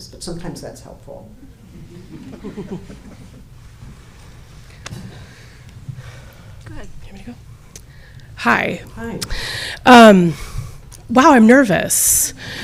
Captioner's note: laughter